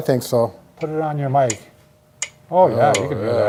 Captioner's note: metronome ticking